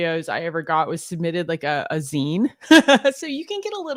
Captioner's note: laughs